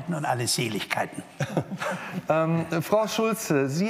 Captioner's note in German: Vereinzeltes Lachen